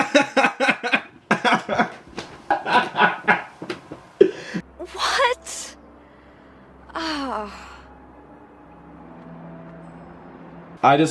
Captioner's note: laughts at line from film